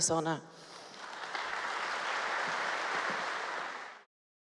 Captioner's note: applause